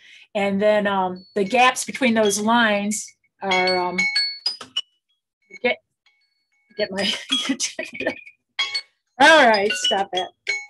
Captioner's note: phone goes off